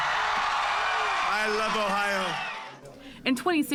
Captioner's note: cheering and applause